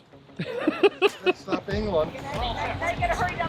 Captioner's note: laughing